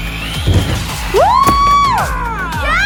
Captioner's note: wheels accelerating; thudding; screaming